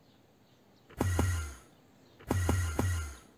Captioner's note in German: Enderman Teleport Geräusche